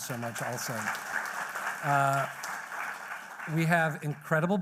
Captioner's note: applause